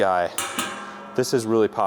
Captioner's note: metal clanks